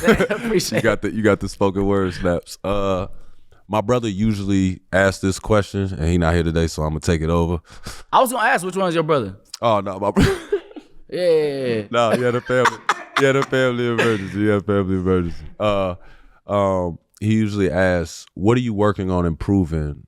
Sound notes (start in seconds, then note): 11.8 laughing